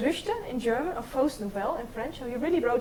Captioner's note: speaks in foreign language